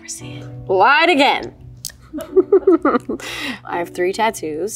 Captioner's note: chuckles